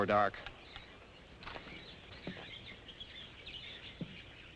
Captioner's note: birds chirping